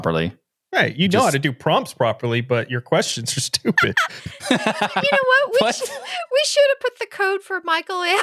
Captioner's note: laughing